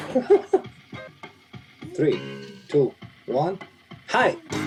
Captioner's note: chuckles